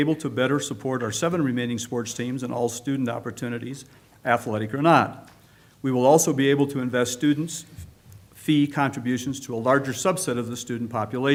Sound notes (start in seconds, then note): none